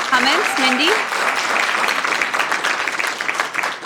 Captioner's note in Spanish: Aplausos